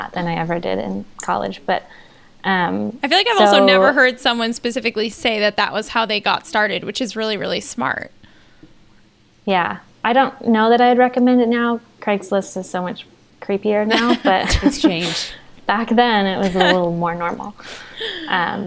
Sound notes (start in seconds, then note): 14.2 they laugh